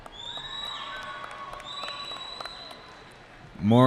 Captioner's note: cheering